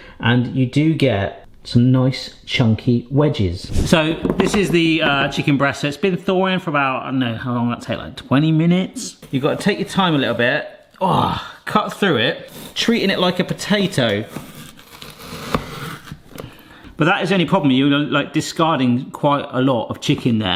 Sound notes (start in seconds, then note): none